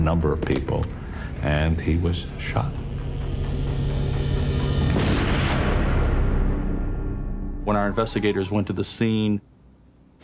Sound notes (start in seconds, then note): 4.9 gunshot